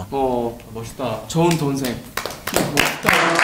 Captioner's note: claps